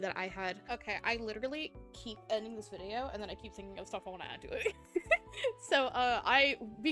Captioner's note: giggling